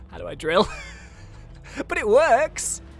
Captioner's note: laughs